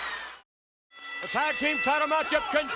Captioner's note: bell rings